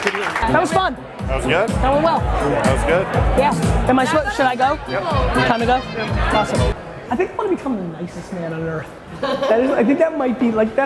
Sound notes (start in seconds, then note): 9.1 laughter